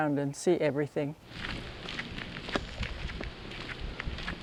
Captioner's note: footsteps